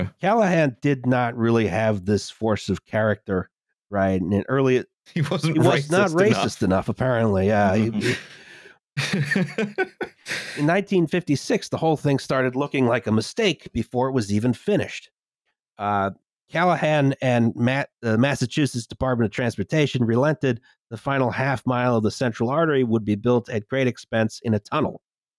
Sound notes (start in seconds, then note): 5.4 laughing; 9.0 chuckles